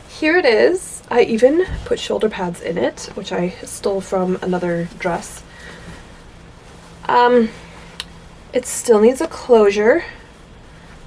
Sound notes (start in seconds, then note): none